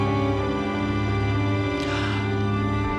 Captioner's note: gasps